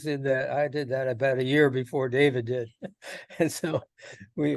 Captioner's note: laughs